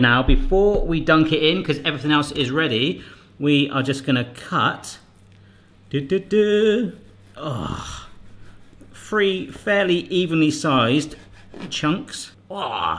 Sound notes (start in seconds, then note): 7.2 groans; 12.4 groans